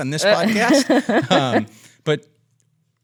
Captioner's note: laughs